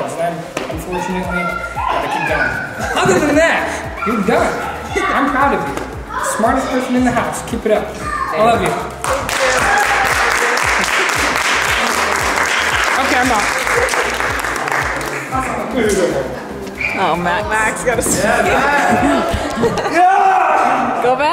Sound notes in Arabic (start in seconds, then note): 9.0 الضيوف يصفقون; 13.9 يضحك; 18.8 يضحك كريستال